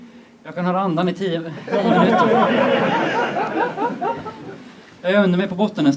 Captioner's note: laughter